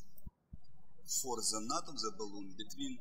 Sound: birds chirping

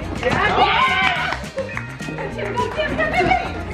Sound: yelling

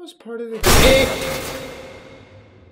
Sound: loud bang

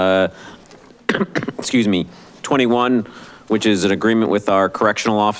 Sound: coughs

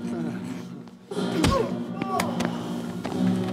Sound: tourist grunting

